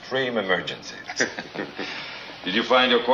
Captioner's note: Doctor Burke and captain laugh